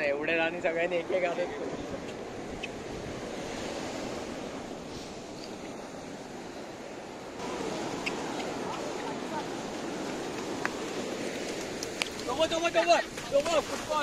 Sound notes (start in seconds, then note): 2.5 sea waves sound